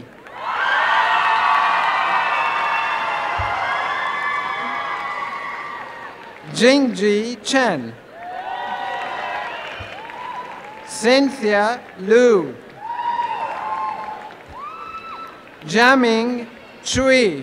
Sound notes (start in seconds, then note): 0.1 applause and cheering; 8.0 applause